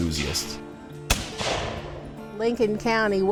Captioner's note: gunshot booming